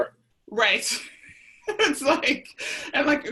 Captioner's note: laughs